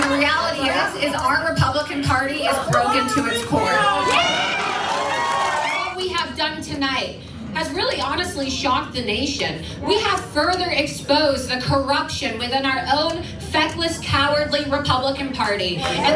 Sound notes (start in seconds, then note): 0.0 applause; 4.8 applause